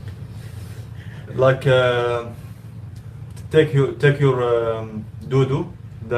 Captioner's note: speaking in Arabic